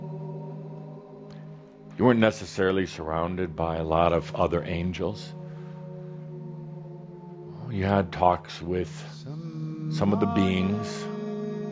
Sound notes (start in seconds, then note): none